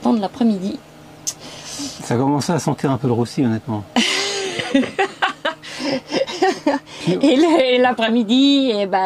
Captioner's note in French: Rire